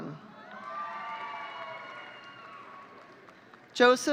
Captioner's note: audience cheering